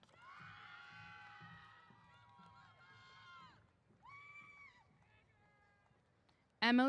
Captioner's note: cheers